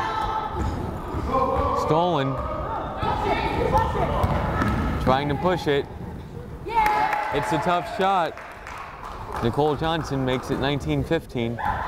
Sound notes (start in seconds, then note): 6.8 crowd cheering and applauding